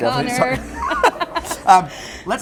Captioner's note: both laughing